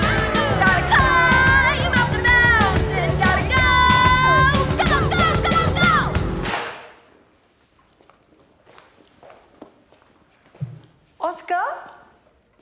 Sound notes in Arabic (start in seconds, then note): 6.5 رنين المفاتيح